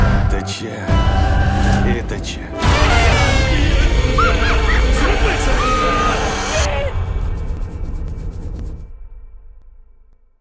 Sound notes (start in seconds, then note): 2.5 horn toots; 2.6 laughs; 5.8 woman 1 screams